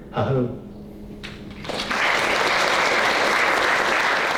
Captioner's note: applause